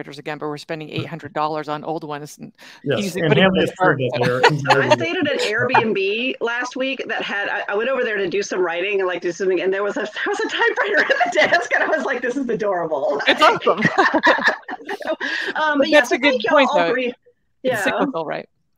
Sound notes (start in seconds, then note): 2.8 laughs; 4.1 speaks faintly